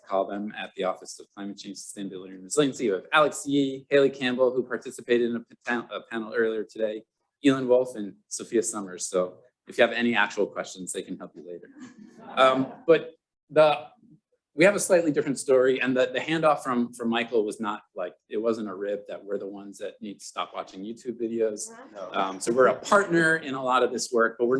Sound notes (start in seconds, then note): 11.7 laughter